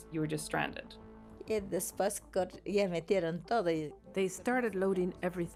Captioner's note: speaking in foreign language